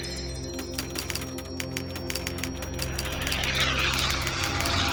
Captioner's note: typewriter clacking